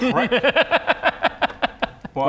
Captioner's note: evil cackle